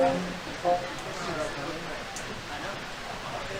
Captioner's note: people chattering